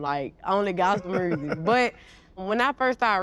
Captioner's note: all laughing